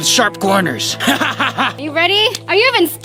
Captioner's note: cynical laughing